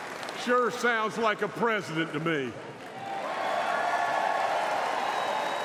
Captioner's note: applause